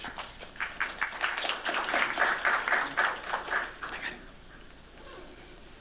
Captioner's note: applause